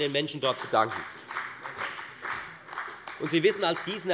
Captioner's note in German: Beifall bei der FDP